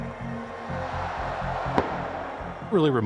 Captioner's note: crowd cheering